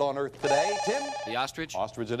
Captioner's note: bell rings